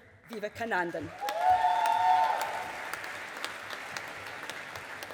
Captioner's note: audience applauding